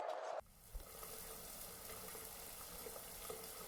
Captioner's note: water sprays